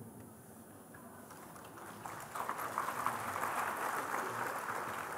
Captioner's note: Applaus